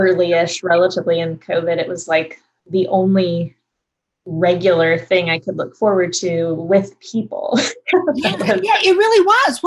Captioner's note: laughs